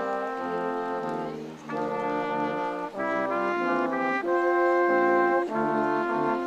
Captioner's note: audience applauding